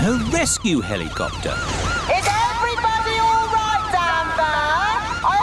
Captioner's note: over megaphone